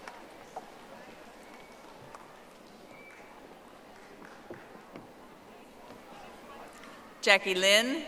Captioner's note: audience applauding